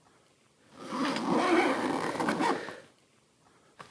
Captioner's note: zipper sound